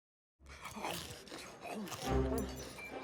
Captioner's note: munching